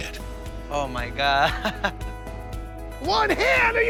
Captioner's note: laughs